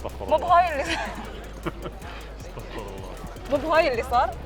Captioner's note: laughs